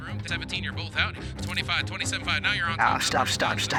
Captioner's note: rapid auctioneering